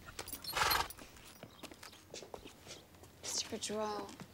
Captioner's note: horse shudders